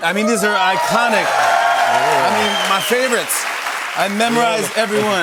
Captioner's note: cheers and applause